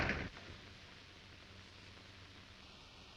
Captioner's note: door closes